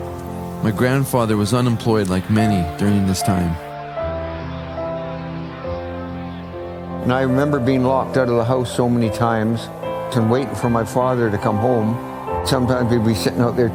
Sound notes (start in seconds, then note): 3.7 men shouting